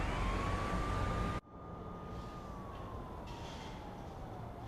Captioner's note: siren wailing